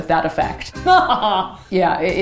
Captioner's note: laughs evilly